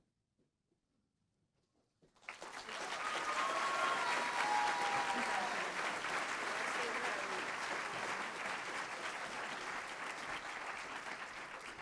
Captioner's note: applause